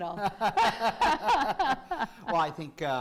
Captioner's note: laughs